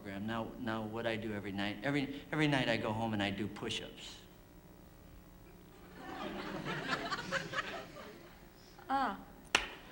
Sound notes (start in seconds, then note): 5.8 laughter